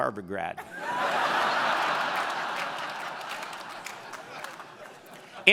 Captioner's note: audience laughing